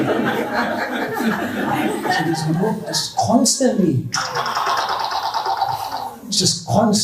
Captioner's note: laughter; wooshing noise